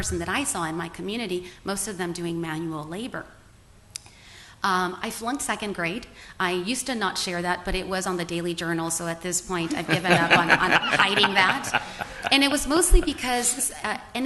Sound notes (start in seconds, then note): 9.6 laughter